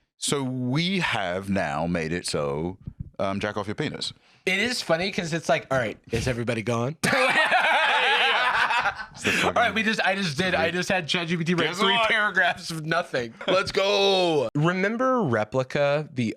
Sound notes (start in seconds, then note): 7.0 laughs